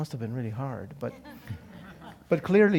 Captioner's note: laugh